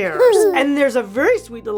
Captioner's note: giggles